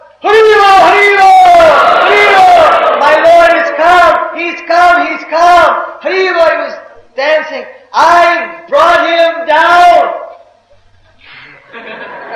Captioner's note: devotees laughing